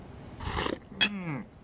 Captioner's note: slurps loudly